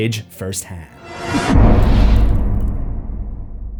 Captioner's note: impact